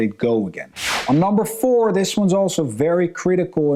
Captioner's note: transition whooshing